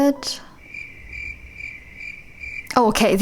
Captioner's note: crickets sounds